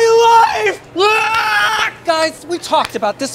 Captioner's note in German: Exec schreit